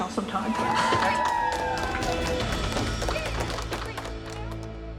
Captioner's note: cheering